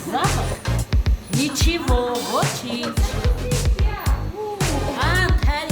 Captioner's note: speaking Armenian